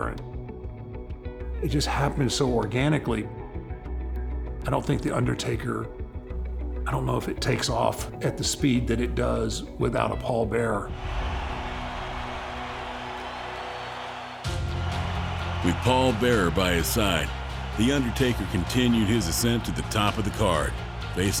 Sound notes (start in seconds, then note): 11.6 crowd cheers; 11.6 dramatic orchestra music